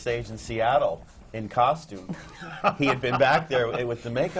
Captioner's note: laughs